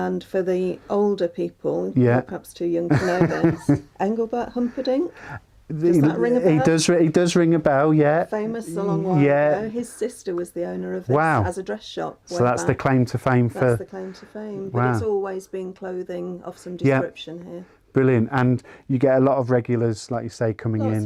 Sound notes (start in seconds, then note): 2.9 laughs